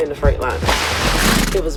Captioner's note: horse snorts